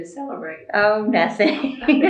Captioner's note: laughter